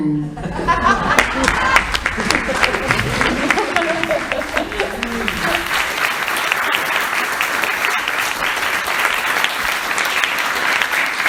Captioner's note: applause, laughter and cheering